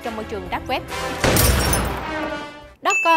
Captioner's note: gun firing